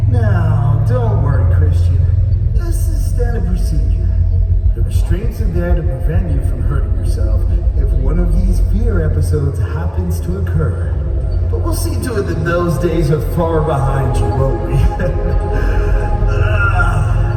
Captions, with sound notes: Now, don't worry Christian, this is standard procedure The restraints are there to prevent you from hurting yourself if one of these Fear episodes happens to occur But we'll see to it that those days are far behind you, won't we? (laughs)